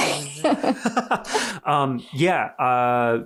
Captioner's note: laughing